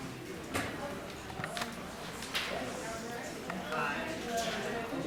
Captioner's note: crowd talking loudly